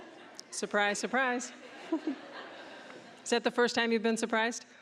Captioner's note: audience laughing